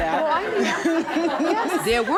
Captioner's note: laughter